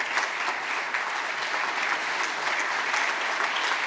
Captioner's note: applause